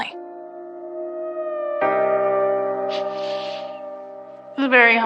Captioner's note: sobobs softlyly